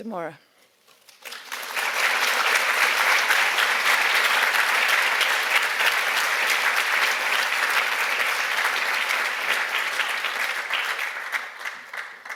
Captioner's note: applause